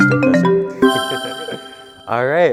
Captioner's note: laughing